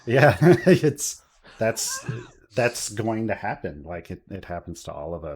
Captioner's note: laughs